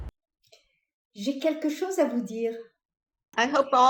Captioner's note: French